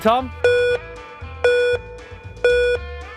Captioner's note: beeping